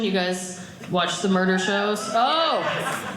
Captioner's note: audience cheering